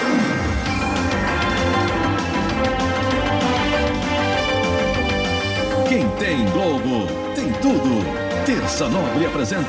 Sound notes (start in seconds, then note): 5.7 male announcer speaking Portuguese